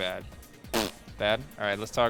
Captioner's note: raspberries